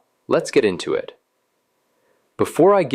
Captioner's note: pause